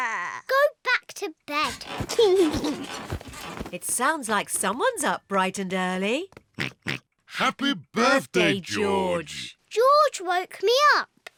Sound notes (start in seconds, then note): 1.7 laughs; 6.3 oinks